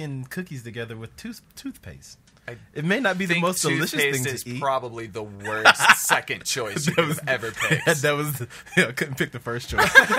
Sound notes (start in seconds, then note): 6.6 laughs